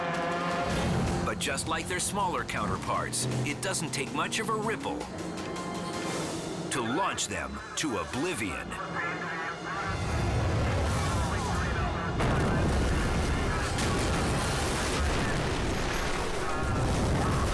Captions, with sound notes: But just like their smaller counterparts, it doesn't take much of a ripple to launch them to oblivion. (race officials chattering) (boat crashing) (water splashing)